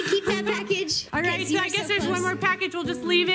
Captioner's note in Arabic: ضحك